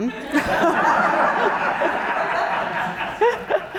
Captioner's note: audience laughing